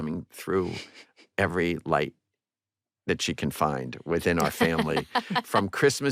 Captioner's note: laughs